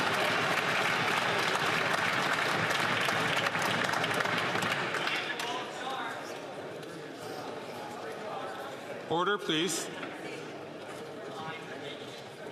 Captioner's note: some Applause